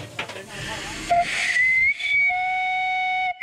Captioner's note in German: Zug pfeift